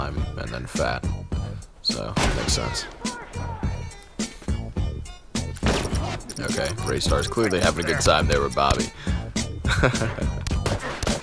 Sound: hehehe

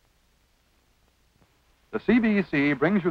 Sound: silence

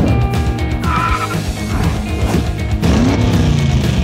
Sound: tires screeching

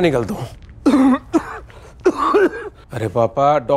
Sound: coughing

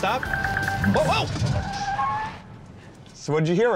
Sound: ringing

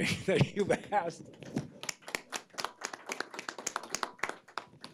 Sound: audience applauds

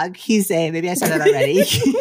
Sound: laughs

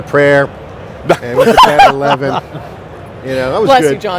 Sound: laughs

